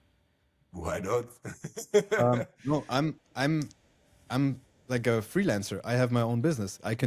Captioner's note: laughs